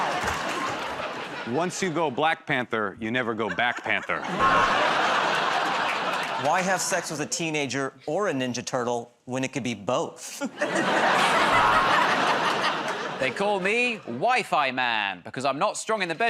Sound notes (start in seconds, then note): 4.4 buzzer buzzes; 11.5 buzzer buzzes